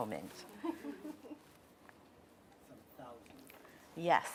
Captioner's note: laughing